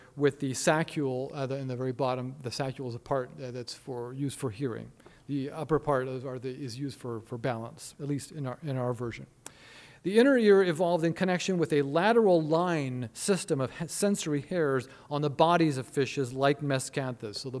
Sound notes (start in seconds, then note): none